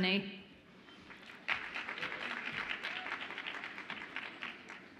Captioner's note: audience applauds